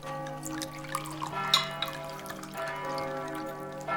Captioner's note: church bells ring